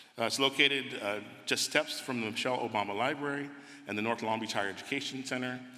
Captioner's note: none